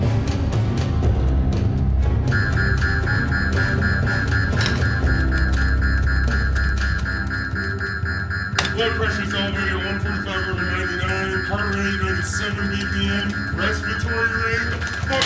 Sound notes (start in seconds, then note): 2.7 alarm blaring